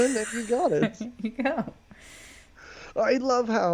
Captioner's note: laughs